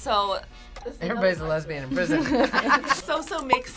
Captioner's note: laughs